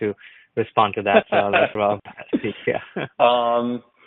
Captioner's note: laughs